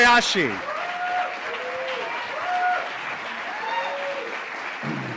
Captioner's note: audience cheers